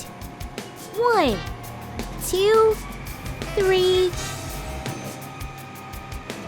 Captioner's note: trucks whirring